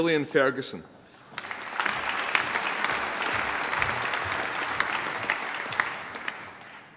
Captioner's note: applause